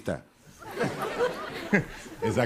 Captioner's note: laughter